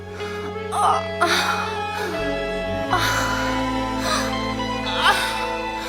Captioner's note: moaning